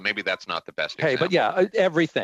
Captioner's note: laughter